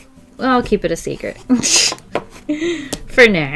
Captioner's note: laughs